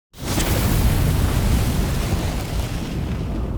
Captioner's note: fire whooshing